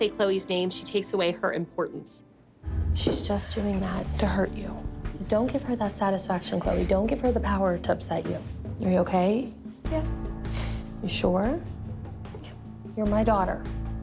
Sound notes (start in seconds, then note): 10.4 sniffles